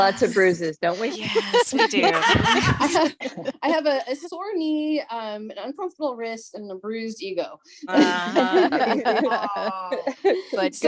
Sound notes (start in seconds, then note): 1.1 laughter